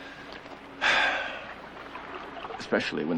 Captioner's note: sigh